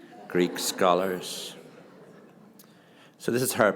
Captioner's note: audience laughing